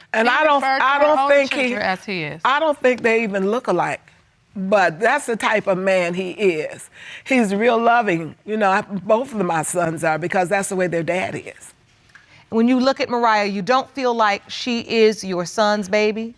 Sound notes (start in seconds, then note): none